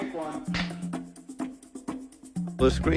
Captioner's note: slate snaps